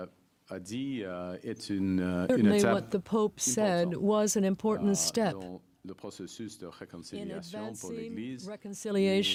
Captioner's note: speaking French